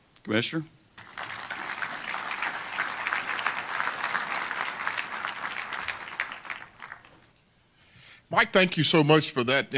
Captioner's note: applause